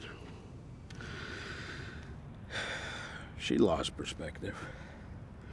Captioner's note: sighs